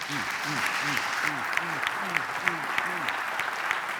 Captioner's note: applause